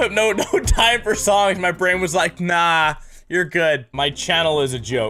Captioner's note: slurp